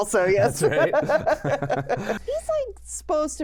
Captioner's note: pair laughs